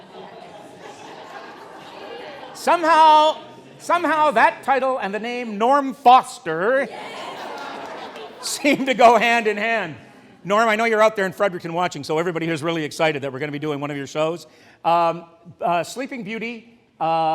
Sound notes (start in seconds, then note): 0.0 cheers, laughter, oohs & ahhs - Muffled chatter; 8.5 more cheers